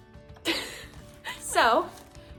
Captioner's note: laughing